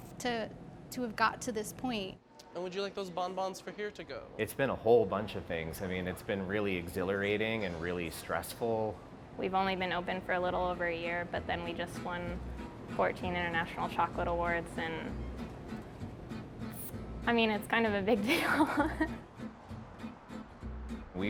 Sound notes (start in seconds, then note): 18.2 laughing; 20.5 upbeat guitar music